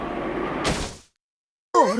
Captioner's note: thump